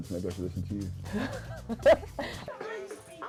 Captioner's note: laughs